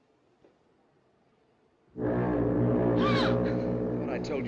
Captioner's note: foghorn Blows; gasps